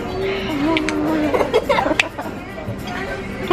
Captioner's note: laughing